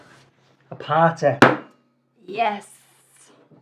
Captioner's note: bottle thuds